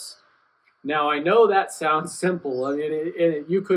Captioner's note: laughs